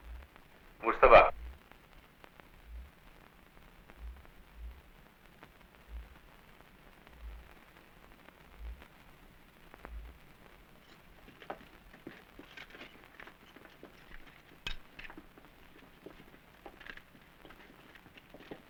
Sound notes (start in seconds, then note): 0.8 non-english speech